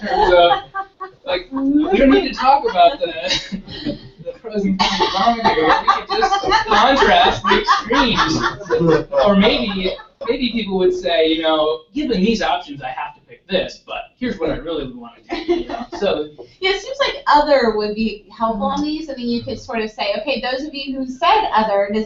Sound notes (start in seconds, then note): 0.5 laugh; 6.2 laugh